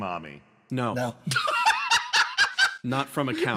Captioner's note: laughs